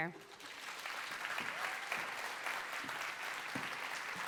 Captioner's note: audience applauds